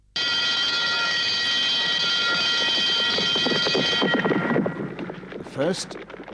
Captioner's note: alarm ringing